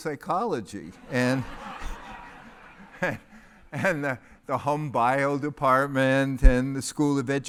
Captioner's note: laugh